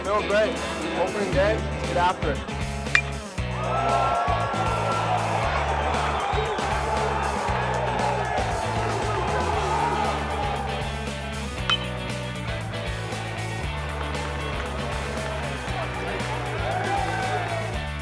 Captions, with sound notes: - Feel great, opening day, let's get after it. (baseball bat clinking) (crowd cheering) (upbeat music) (baseball bat clinking) (upbeat music)